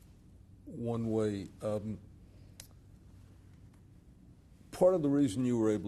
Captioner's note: pauses for 3 seconds